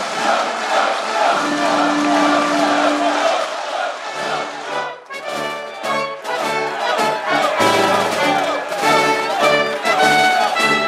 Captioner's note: applause